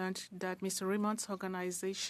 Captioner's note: speaking French